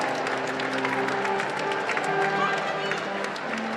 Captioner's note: applause